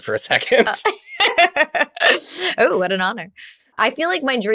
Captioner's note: laughs